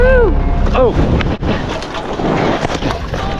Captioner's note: crashing